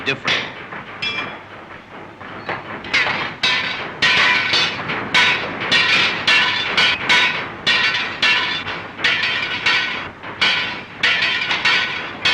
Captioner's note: clanging